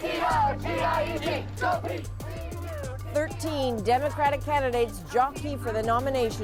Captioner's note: chanting